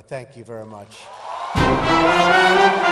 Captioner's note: applause; upbeat band music